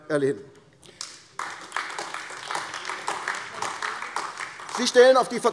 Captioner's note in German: Beifall AfD